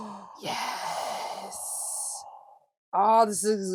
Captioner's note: gasps